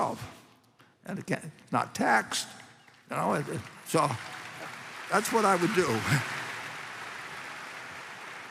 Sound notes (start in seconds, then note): 2.2 applause